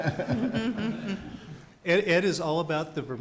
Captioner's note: laughing